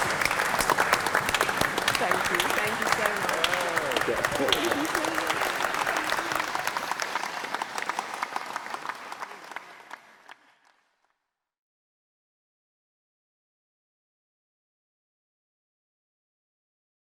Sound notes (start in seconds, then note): 0.1 applause; 4.3 applause